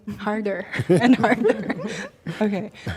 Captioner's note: chuckling